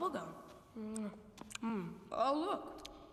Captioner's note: chews noisily